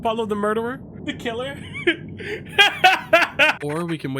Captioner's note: laughs